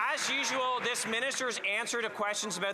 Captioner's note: some Applause